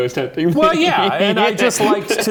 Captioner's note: laughing